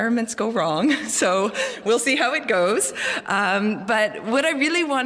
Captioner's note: laugh